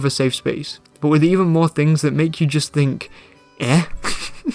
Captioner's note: laugh